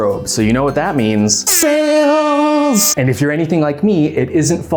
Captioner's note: airhorn